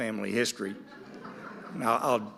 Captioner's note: audience laughing